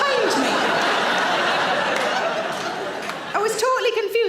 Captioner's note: audience laughs